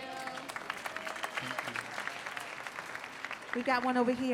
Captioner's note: clapping